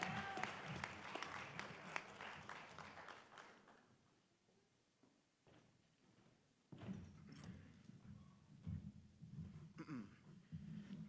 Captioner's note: applause